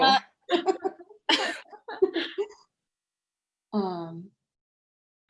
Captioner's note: laughing